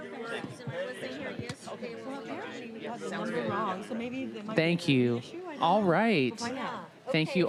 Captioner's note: laughter